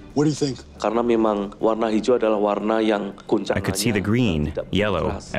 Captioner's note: speaking foreign language